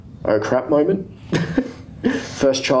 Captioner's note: laughs